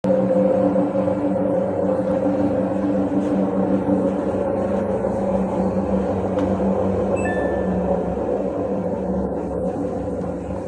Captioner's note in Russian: барабан стиральной машины сильно гудит при работе